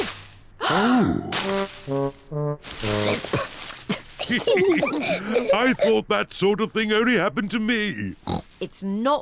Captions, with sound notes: -Oh! -Oh! -(COUGHS) -(ALL GIGGLING) I thought that sort of thing only happened to me.